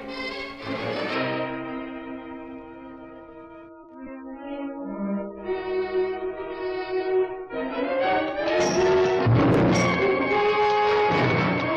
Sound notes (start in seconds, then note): 8.6 weapon bangs